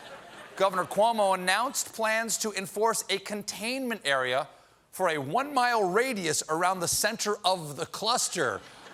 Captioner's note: laughter